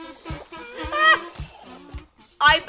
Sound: another scream

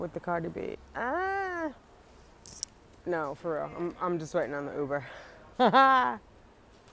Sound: grunts; laughs

